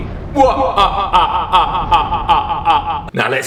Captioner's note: laughs maniacally